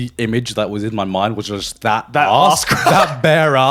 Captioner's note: laughs